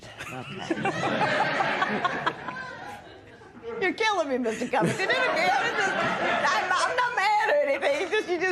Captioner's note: laughter